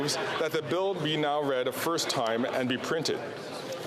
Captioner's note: speaking French